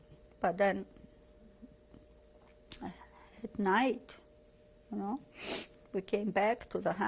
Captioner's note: pauses for 3 seconds